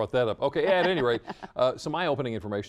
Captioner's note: laughter